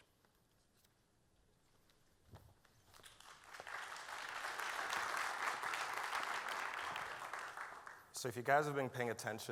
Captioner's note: applause